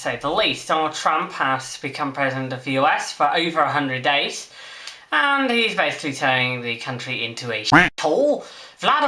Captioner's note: quack